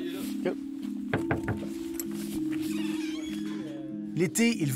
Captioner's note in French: coups à la porte